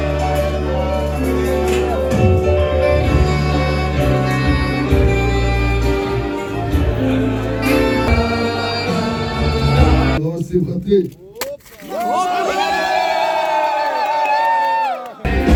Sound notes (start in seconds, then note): 10.3 man speaks foreign language; 11.8 crowd cheers